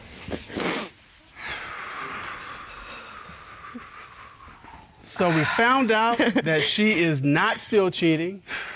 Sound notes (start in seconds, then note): 1.4 exhales deeply; 5.2 chuckling